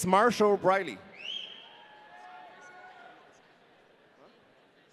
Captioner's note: audience cheering